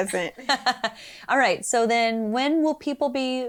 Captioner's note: laughs